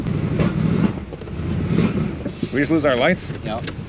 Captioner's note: engine sputters